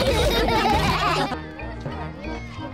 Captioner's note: all laugh; children exclaiming playfully